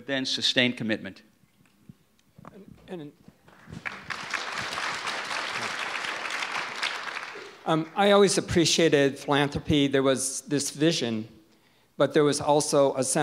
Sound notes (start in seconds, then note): 3.4 audience applause